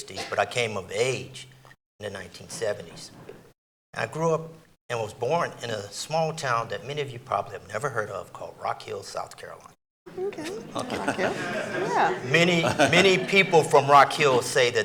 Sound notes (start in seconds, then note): 10.1 audience chattering